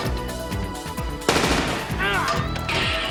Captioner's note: gasps